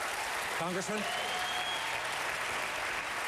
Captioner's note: applause